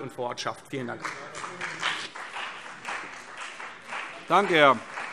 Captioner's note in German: Beifall CDU und BÜNDNIS 90/DIE GRÜNEN